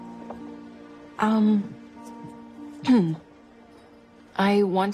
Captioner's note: clears throat